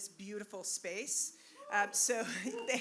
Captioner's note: cheering